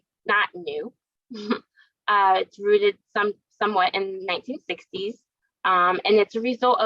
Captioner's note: laugh